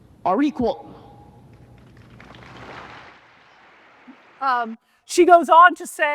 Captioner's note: audience clapping